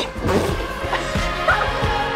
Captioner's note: snorts; laughs